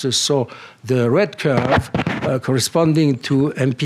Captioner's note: none